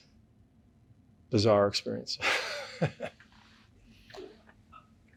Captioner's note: laughs